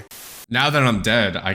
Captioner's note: static